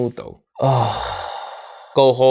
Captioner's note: sighs